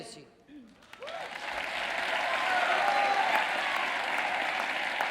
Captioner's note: audience cheering